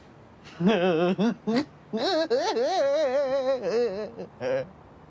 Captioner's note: laughing